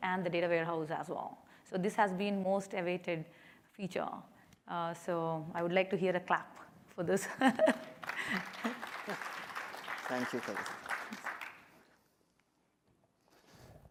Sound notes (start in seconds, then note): 7.7 applause